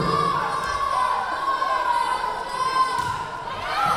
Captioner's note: yelling